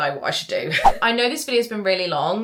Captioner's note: screen fwipping